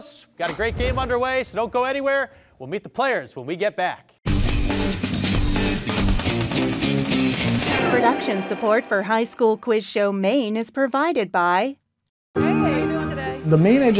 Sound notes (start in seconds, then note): 5.9 upbeat music; 8.1 voiceover